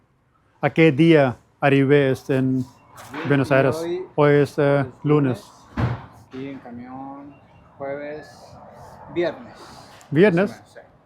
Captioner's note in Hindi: स्पेनिश बोलते हुए